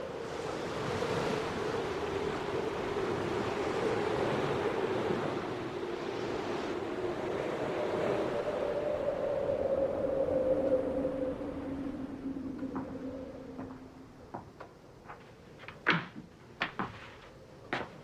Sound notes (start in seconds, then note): 15.4 door opening